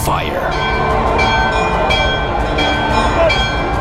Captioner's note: bells ringing